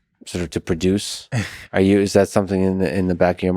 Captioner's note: Tim laughs